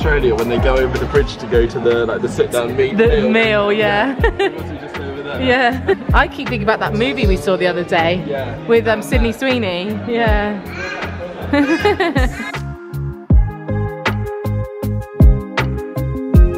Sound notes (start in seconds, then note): 10.7 laughing; 11.9 gentle electronic music